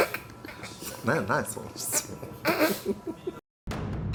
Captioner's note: laughs